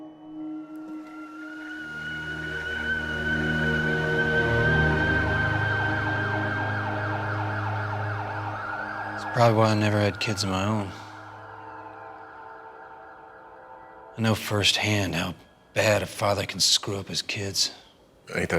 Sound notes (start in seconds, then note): 2.0 kettle whistles; 7.7 sirens blaring